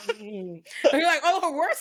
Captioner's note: laughing